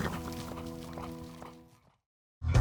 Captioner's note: horse neighing